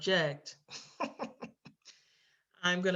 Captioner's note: laughs